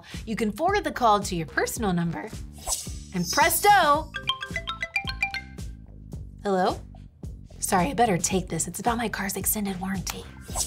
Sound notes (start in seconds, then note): 4.1 phone rings